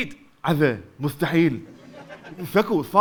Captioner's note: still lisping